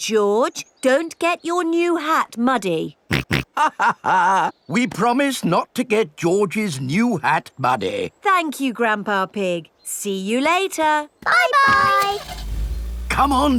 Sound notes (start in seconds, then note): 3.1 chuckles; 3.3 snorts